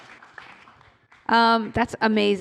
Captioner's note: applause